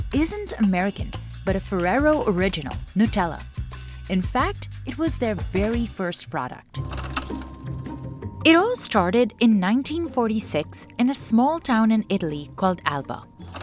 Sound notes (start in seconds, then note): 6.7 soft music; 6.8 movie projector rattles